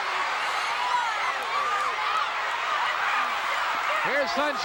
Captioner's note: audience cheering